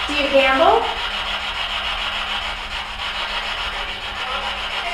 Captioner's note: static buzzing